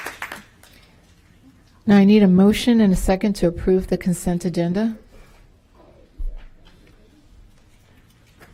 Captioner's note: applause